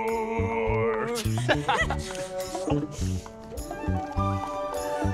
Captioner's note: Anna and Hans laugh